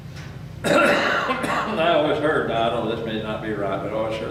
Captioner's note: coughs